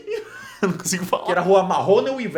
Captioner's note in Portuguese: risada